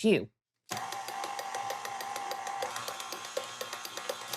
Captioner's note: mixer whirring